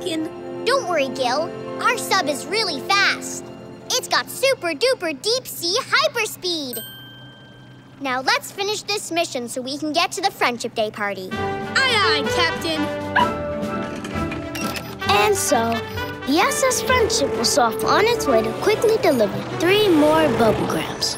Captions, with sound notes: Don't worry, Gil. Our sub is really fast! It's got super duper, deep speed, hyper speed! Now, let's finish this mission so we can get to the Friendship Day party. Aye, aye, Captain. [barking] And so, the SS Friendship was off on its way to quickly deliver three more Bubblegrams.